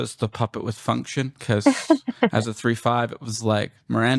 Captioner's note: laughter